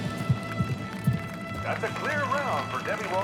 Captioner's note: crowd applauds; uplifting music